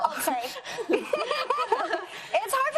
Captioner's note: laughs